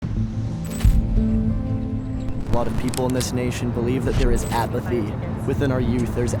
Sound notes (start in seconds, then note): 0.0 disquieting music; 0.7 screen scratches